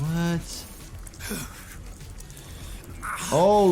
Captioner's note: Eddie Gluskin grunts